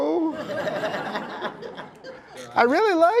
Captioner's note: laughter